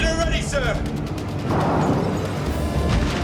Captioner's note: explosion